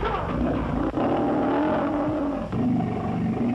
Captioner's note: roars